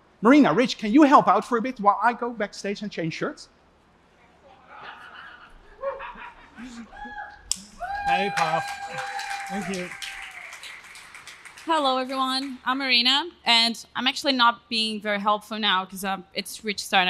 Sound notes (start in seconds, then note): 4.6 laughter; 7.8 applause